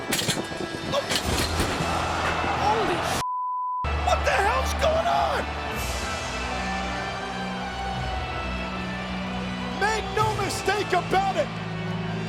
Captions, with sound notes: (ring posts clatter) Holy (beep)! What the hell's going on? (solemn funereal music) Make no mistake about it.